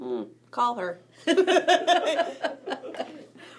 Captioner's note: group laughing